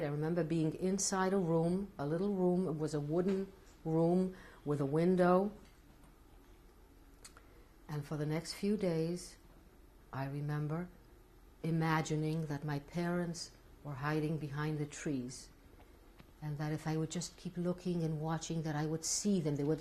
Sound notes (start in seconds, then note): 5.2 pauses for 3 seconds